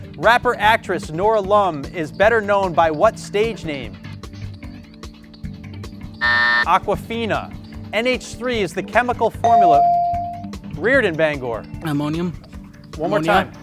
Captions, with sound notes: Rapper actress Nora Lum is better known by what stage name? (buzzer sounds) Awkwafina. NH3 is the chemical formula. (bell dings) Riorden, Bangor. - Ammonium. - One more time.